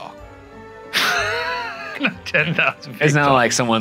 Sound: laughing

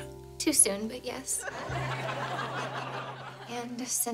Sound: audience laughing

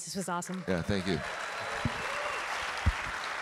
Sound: audience cheering; audience clapping

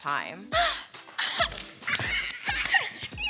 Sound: squealing

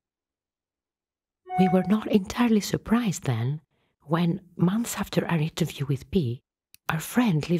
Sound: computer dings

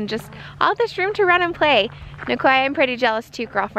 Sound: none

